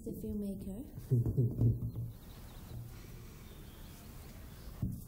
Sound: Jason laughs

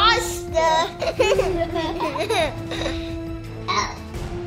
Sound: laughs

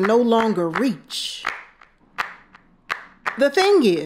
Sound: hands clapping

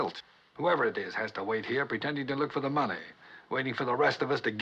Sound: none

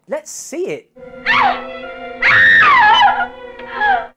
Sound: scream

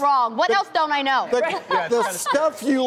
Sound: laughs

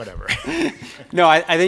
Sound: laughs

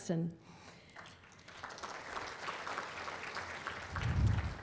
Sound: applause

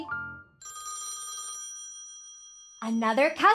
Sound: phone ringing

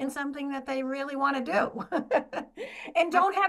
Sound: laughs

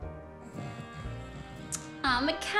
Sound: snores

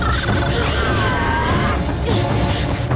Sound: screeching

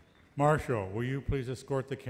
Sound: voiceover

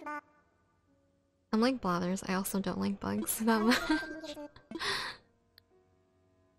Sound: laugh

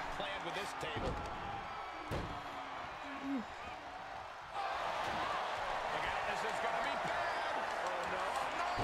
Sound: applause

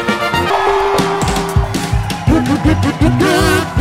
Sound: audience cheering; upbeat circus music

